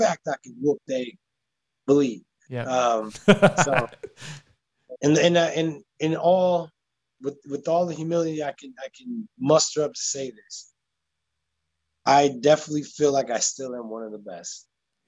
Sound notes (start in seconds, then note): 2.6 laughing